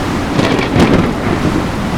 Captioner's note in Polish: grzmoty